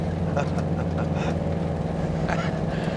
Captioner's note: chuckling